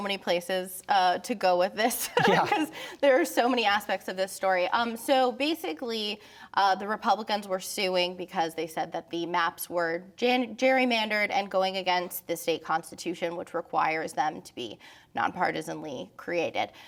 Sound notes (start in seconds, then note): 1.9 laughter